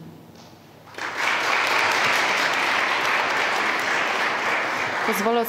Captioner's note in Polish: oklaski